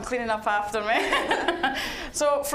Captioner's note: laughing